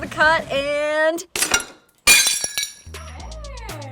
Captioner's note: glass breaks